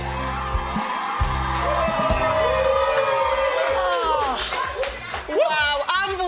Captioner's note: cheering